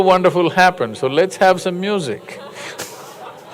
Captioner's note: laughter